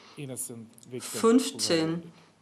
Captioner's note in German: spricht Russisch